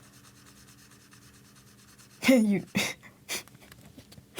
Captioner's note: laughs